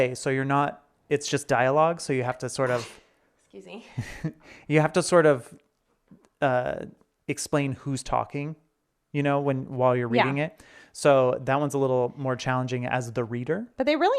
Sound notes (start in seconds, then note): 2.6 sneezes; 3.9 chuckles